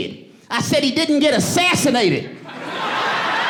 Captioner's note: audience laughing